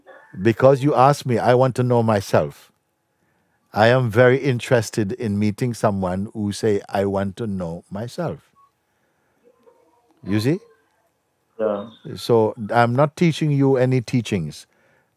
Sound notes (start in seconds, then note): none